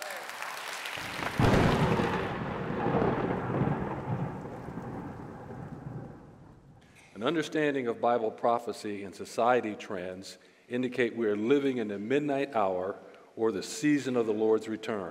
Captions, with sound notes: >>[clapping] >>[thunder] >>An understanding of Bible prophecy and society trends indicate we're living in the midnight hour or the season of the